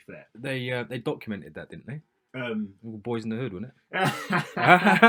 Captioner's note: laughter